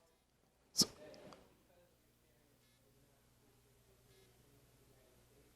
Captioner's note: audience member speaking quietly